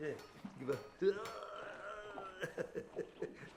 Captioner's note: man imitating choking; man chuckling